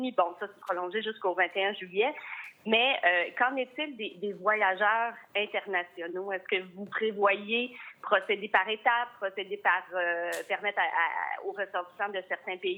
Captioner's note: speaking in French